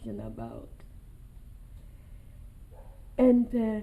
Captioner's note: pauses for 3 seconds